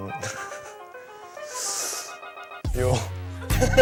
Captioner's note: sigh